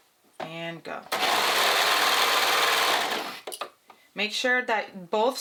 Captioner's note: sewing machine whirring